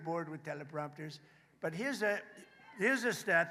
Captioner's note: applause